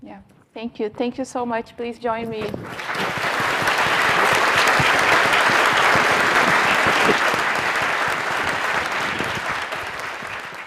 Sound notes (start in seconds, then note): 2.4 audience applauding